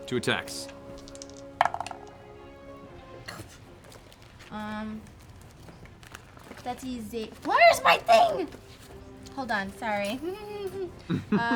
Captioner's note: giggles